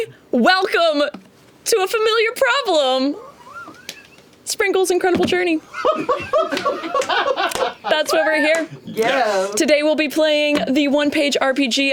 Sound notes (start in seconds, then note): 5.6 laughter